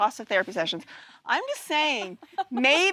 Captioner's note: laughter